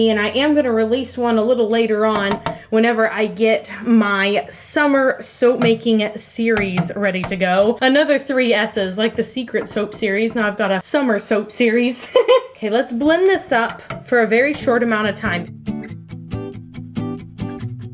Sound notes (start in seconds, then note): 11.8 laughs; 15.3 lively music